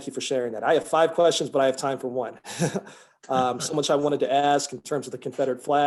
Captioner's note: laughs